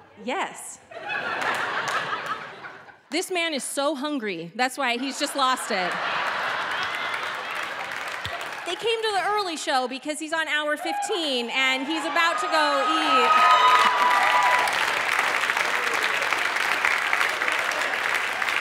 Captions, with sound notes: - Yes. This man is so hungry. That's why he's just lost it. (audience laughing) They came to the early show because he's on hour 15 and he's about to go eat. (audience clapping)